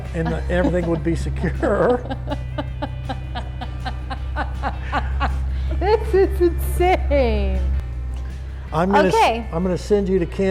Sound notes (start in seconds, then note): 1.9 laughing